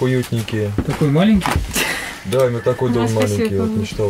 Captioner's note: laughing